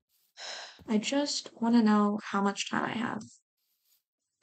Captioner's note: exhale